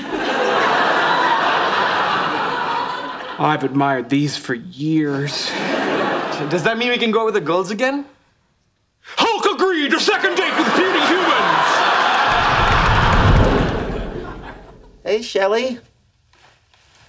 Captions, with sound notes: (audience laughing) I've admired these for years. - Does that mean we can go with the girls again? - Hulk agrees to second date with puny humans. (audience laughing) - Hey Shelley.